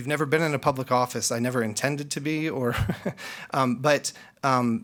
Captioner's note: laughs